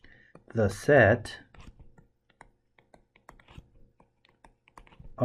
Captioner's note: tapping Sounds